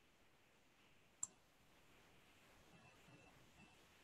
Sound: clicking

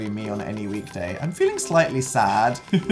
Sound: laughs

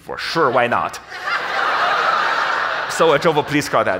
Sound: audience laughs

